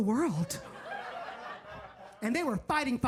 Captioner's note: audience laughs